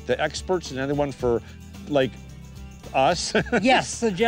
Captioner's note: laughs